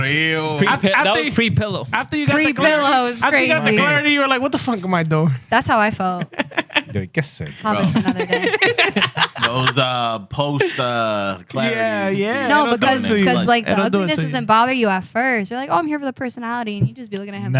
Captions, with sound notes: (Speaking Spanish) That was pre-pillow. Pre-pillow is crazy. I think that the car already-- you were like, what the fuck am I doing? That's how I felt. Yo, guess it. I'll bet you another day. Those are post-clarity. Yeah, yeah. No, because the ugliness doesn't bother you at first. You're like, oh, I'm here for the personality. And you just be looking at him.